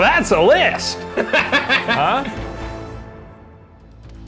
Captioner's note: laughs